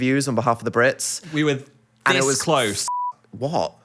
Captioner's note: beep